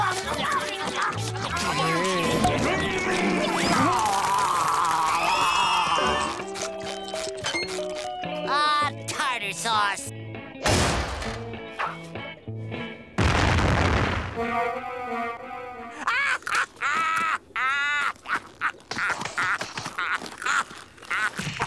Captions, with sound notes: [vomiting] [screaming] Ah, tartar sauce. [thudding] [accordion playing] [laughing]